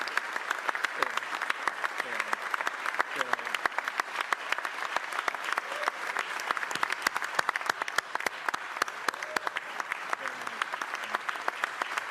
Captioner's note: applause